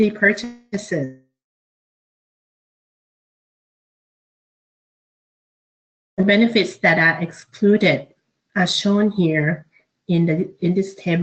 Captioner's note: audio Drops